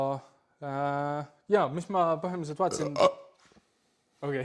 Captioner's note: burp